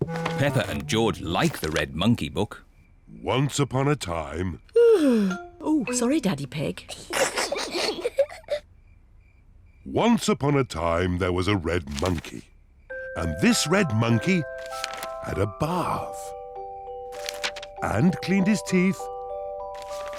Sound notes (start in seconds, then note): 4.7 yawns; 6.9 peppa and george giggle